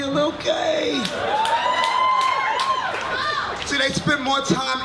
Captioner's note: audience cheers